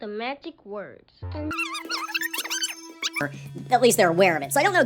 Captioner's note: squeaky gibberish